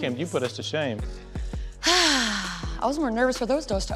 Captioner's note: sighs